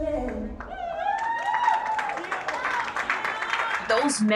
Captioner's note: crowd applauding